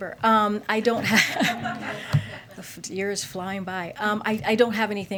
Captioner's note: laughter